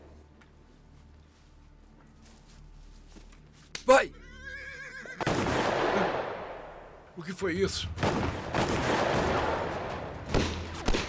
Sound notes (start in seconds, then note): 4.2 horse whinnies; 5.2 gunshot banging; 7.8 gunshots banging